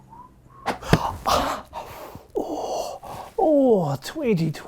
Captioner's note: presenter whistling; presenter groans